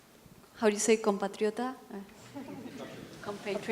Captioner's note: non-english speech